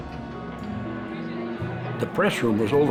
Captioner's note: people clamoring